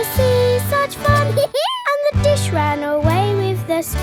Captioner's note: dog laughs